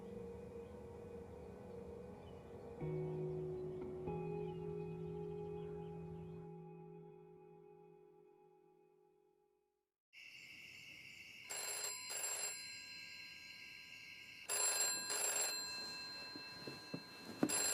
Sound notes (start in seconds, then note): 10.2 crickets chirping; 11.4 phone ringing